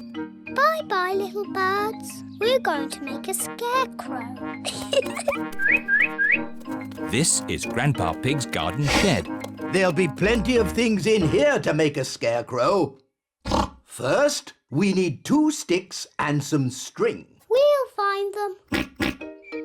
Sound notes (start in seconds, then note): 4.6 giggles; 5.5 bird tweets; 13.4 oinks; 18.7 oinks